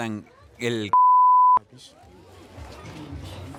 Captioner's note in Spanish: bip